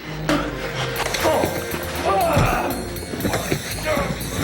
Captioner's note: spits; David groans